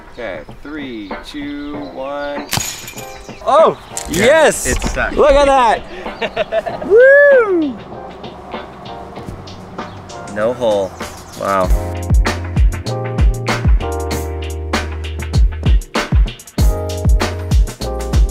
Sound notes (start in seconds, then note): 5.9 laughter